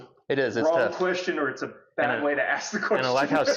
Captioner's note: laughs